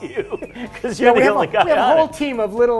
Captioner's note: laughing